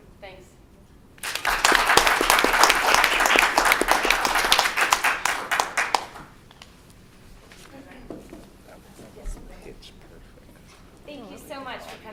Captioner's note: clapping